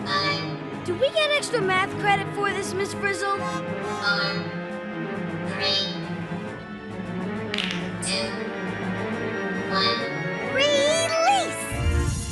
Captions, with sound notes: - DO WE GET EXTRA MATH CREDIT FOR THIS, MISS FRIZZLE? - [electronic voice] FOUR, THREE... [knuckles cracking] TWO, ONE. - RELEASE!